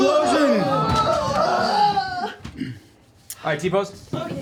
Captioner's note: yelling